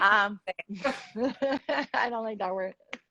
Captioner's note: laughs